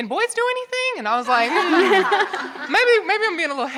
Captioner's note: audience laughing